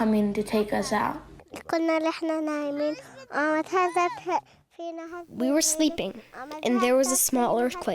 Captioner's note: through translator